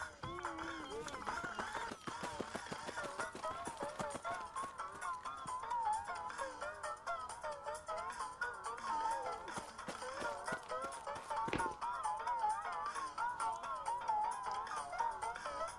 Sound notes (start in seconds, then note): 11.3 thud!